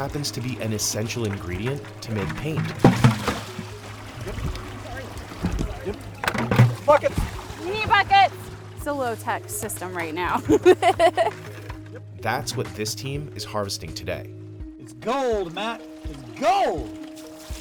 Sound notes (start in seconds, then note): 10.1 laughs